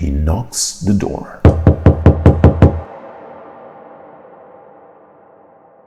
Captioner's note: door knocking sound